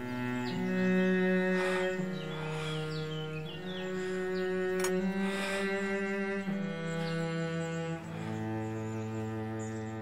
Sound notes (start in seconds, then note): 4.8 latch clicks